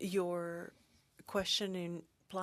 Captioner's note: speaking French